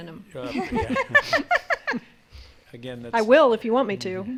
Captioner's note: all laughing